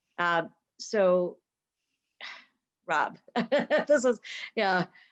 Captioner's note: laughing